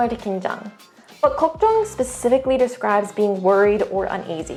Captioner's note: speaking in Korean; speaks in Korean